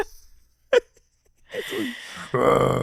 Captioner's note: laughing